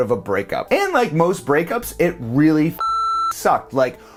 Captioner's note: beep